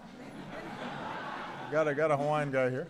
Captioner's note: laughter